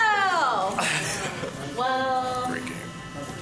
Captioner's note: laughing